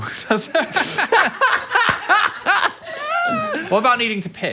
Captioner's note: both laughing